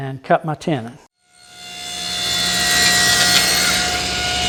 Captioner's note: saw cutting